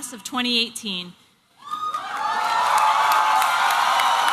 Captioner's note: applause and cheering